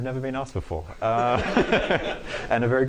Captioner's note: laughter